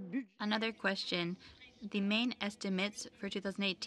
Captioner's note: speaking in French